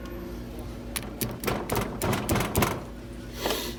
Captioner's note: knocking